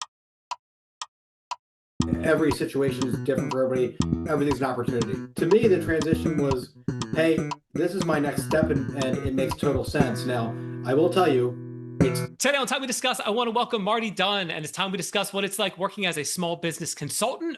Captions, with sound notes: (Clock Ticking) Every situation is different for everybody. Everything's an opportunity. To me, the transition was, "Hey, this is my next step and it makes total sense." Now, I will tell you, it's... Today on "Time We Discuss," I wanna welcome Marty Dunn and it's time we discuss what it's like working as a small business consultant.